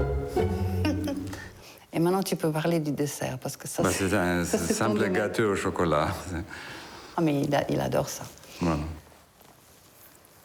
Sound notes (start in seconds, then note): 0.6 laughs; 2.7 speaking foreign language